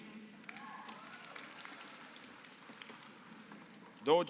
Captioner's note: applause